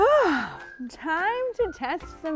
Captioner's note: bright music; sighing